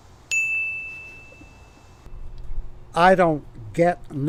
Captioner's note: bell chiming